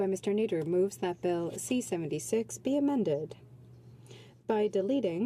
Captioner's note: speaking French